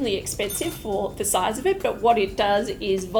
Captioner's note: bell ringing